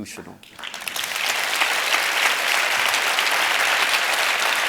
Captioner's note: audience applauding